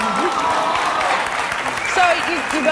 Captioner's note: audience clapping